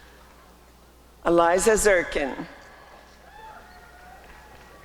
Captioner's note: applause and cheering